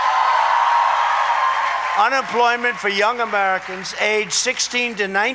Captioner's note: applause